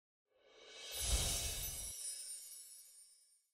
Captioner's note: chimes